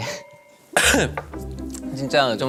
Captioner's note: cough